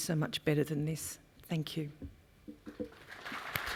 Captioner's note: applause